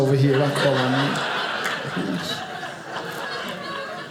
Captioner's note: audience laughing